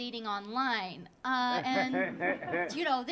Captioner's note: audience laughing